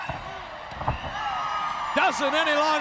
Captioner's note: Bubba thuds